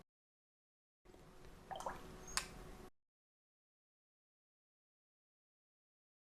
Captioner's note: silence